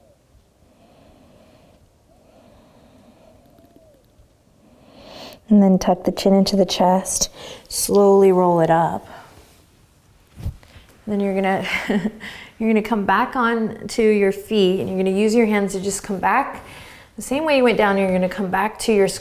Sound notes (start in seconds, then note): 11.5 laughs